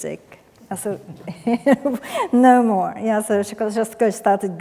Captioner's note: laughs